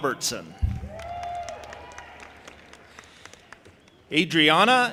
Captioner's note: audience applauding and cheering